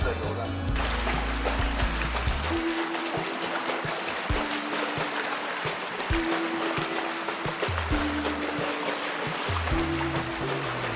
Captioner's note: beating